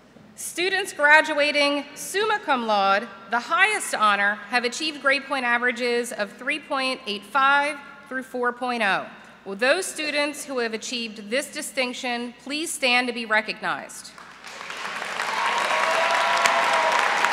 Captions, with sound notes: STUDENTS GRADUATING SUMMA CUM LAUDE, THE HIGHEST HONOR, HAVE ACHIEVED GRADE-POINT AVERAGES OF 3.85 TO 4.00. WILL THOSE STUDENTS WHO HAVE ACHIEVED THIS DISTINCTION PLEASE STAND TO BE RECOGNIZED. [APPLAUSE]